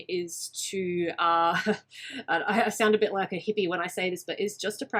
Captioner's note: laughs